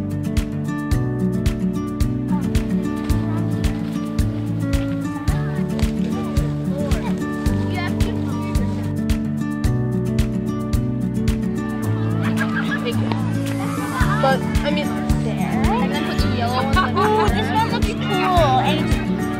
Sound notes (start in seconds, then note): 0.2 upbeat happy music; 9.3 upbeat happy music; 11.9 laughter; 16.7 laughter